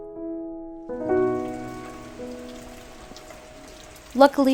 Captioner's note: rain trickling